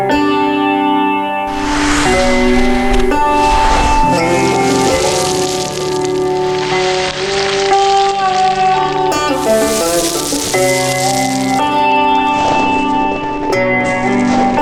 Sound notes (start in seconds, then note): 2.1 dirt rustling; 10.4 dirt rustling